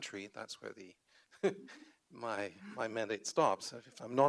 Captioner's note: chuckles